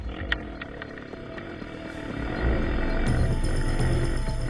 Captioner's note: engine revving